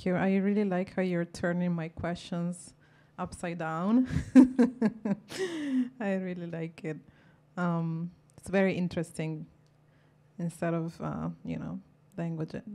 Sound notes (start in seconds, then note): 3.9 laughs